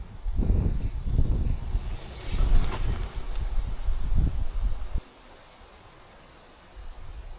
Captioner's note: wind blows